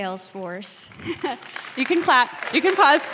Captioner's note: applause